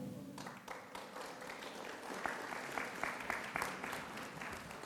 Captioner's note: audience applauds